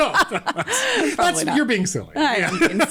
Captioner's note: obnoxious laughter